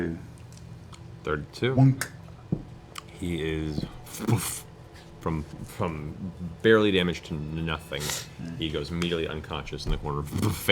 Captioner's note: impact noise